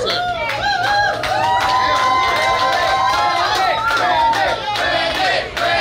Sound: cheering & Clapping

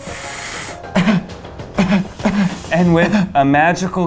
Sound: deep breathing; pretend coughing

